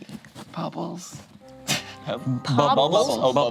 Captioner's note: laughs